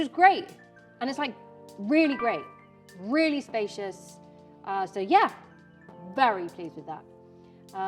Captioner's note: notification sound